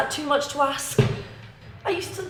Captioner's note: chair slamming